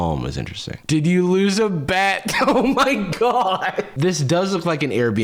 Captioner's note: laughing